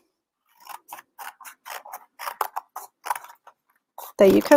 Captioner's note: scissors snipping